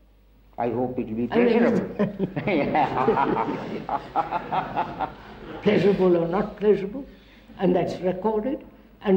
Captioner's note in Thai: หัวเราะ